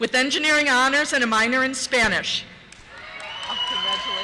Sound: cheers

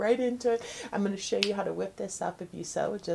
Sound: fingers snapping

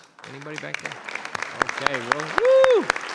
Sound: audience applauding

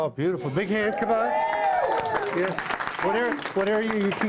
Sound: cheering and Applause

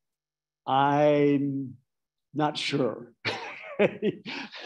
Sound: laughing

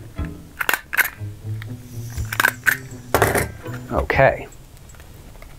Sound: stapler clicks then clatters

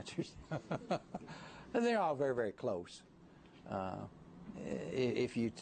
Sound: laughter

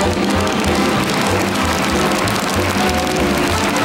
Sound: audience applauds

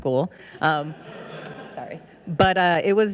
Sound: audience laughing

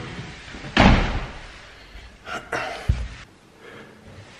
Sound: door slams

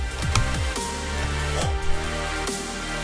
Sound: sighs

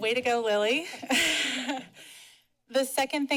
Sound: chuckles

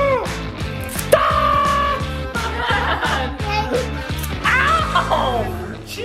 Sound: dad laughs; dad screams

